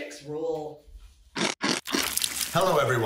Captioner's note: chomping sound